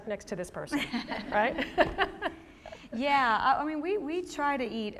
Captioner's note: laughter